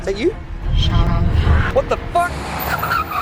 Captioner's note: Mandarin language